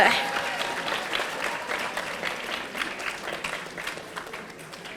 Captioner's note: audience applauding